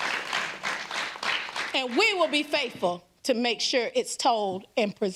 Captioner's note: applause